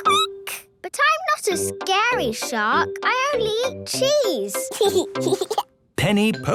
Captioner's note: squeaking; giggling